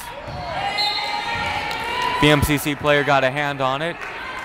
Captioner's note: whistle blowing